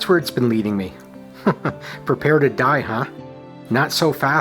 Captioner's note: chuckles